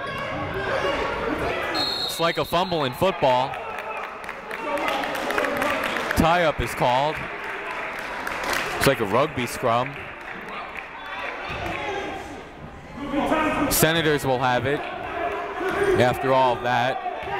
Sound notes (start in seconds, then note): 1.7 whistle blowing; 3.4 clapping; 17.1 shouting